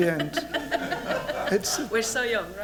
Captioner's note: laughter